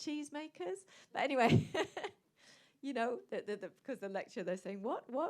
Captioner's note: laughs